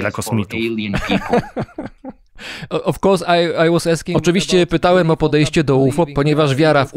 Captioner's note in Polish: śmiech